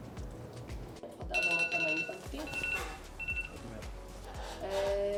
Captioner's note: alarm sound